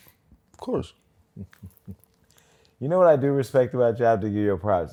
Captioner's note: chuckles